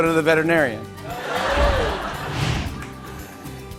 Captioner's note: laughter